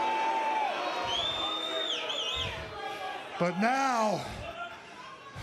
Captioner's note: crowd cheering